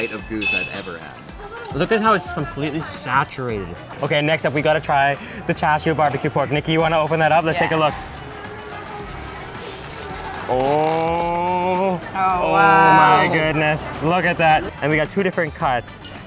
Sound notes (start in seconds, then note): 12.2 cheering